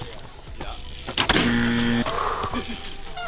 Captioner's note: wheels wheezing; wheels crashing; bell buzzing; exhales